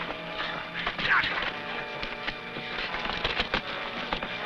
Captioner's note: men grunting